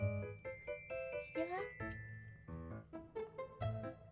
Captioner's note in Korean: 상냥한 목소리